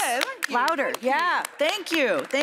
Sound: applause

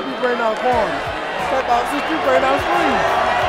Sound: voiceover

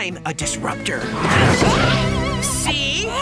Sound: falling sound

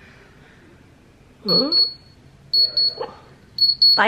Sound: thermometer beeping

